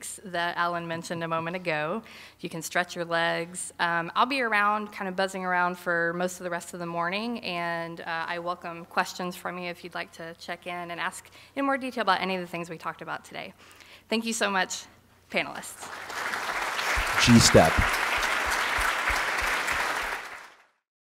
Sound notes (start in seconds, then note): 15.8 applause